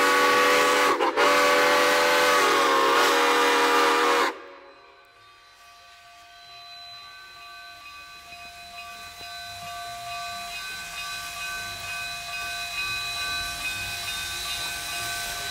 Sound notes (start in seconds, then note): 0.0 two long whistle blasts; 6.8 locomotive bell